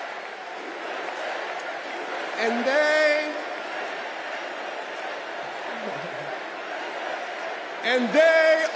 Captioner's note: crowd chanting